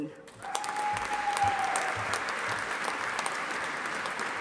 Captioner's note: audience applauding